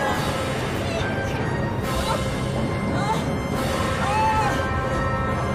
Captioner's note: grunting